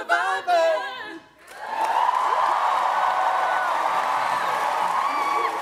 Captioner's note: applause